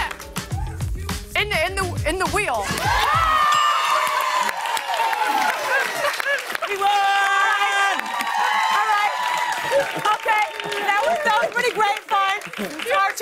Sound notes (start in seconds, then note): 2.3 cheers and applause; 2.3 ding!